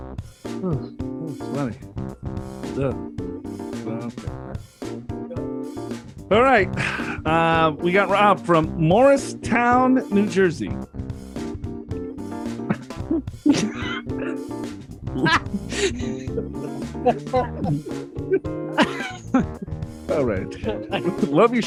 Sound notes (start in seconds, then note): 15.1 laughing